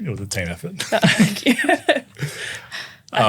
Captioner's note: laughing